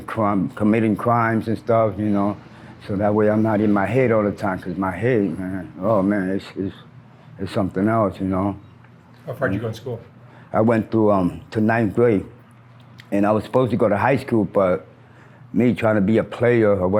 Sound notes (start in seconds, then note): 3.2 traffic passes